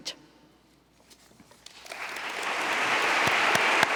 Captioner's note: applause